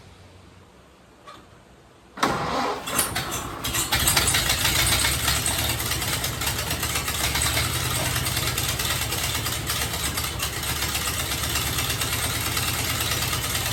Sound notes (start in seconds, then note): 1.1 engine cranking; 4.1 engine starts; 7.4 engine running